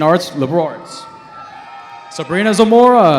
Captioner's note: cheering